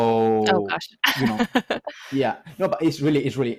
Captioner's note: laughs